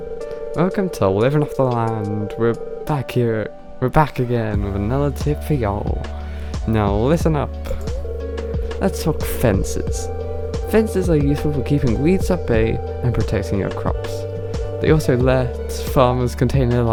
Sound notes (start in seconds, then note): 0.3 accent grows stronger; 8.8 suddenly gains tutorial voice